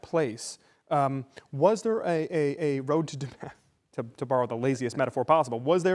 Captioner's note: laughter